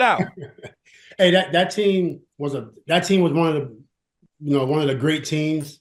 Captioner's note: laughs